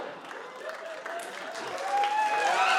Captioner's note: cheers and applause